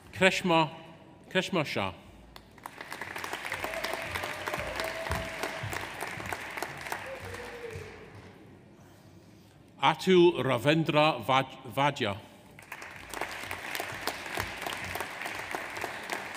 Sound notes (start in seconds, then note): 2.4 audience applauds; 3.2 audience cheers; 12.6 audience applauds